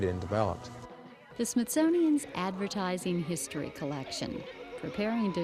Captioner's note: speaking over music